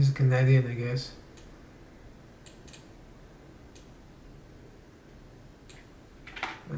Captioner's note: mouse clicks and keyboard typing